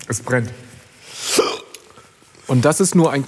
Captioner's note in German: Schluckauf